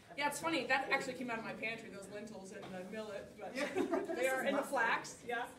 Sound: laughter

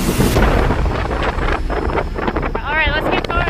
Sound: dramatic music; wind blowing

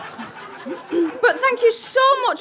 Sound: audience laughter; clears throat

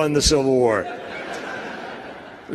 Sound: laugher

